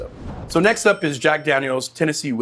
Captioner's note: cash register dings